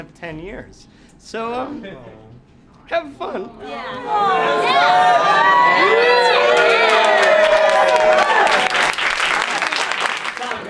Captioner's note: cheering